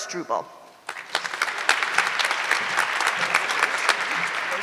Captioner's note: audience cheering